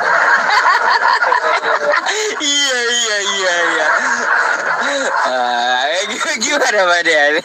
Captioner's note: laughs